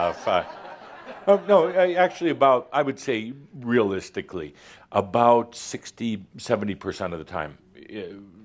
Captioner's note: laughter